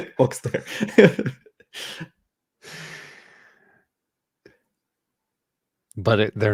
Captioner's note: chuckling